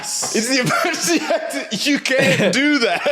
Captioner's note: laughs